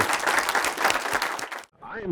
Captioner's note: applause